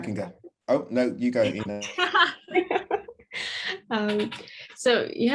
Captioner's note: laughter